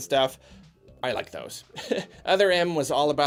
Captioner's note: chuckles